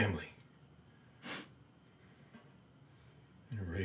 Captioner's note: Isaac sniffles